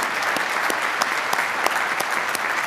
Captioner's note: applause